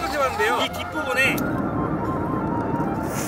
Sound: fountain firecracker

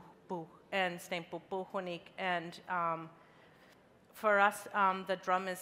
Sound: speaking in a foreign language

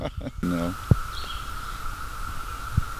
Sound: static

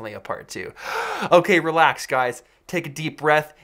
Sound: inhales loudly

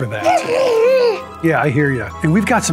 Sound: Whiskers grumbles

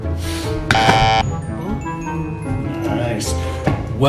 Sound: instrumental music plays; buzzer sound

